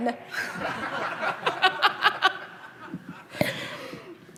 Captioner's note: laughing